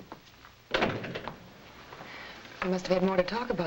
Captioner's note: door bangs shut